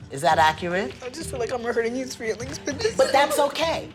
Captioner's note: crying